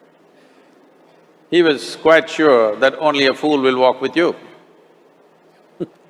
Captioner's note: laughs